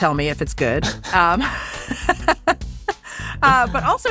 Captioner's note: laughing